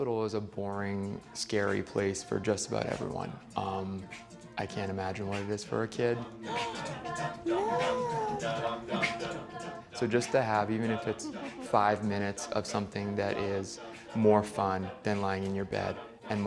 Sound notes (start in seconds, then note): 7.5 surprise sigh; 9.1 singing